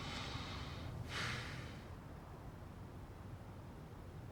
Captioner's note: man sighs